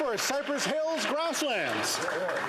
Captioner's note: some Applause